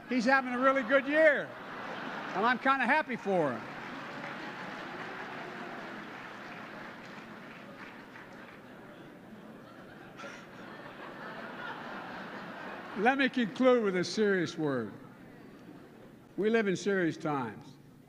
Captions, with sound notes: He's having a really good year, and I'm kind of happy for him. (Laughter and applause.) Let me conclude with a serious word. We live in serious times.